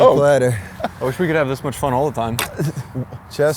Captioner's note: laughs